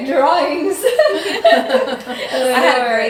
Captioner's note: all laughing